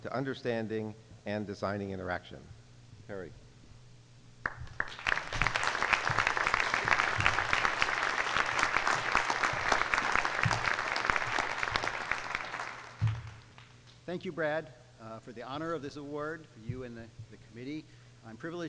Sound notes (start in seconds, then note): 4.5 applause